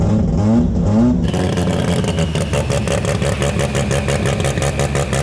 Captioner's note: engine rumbling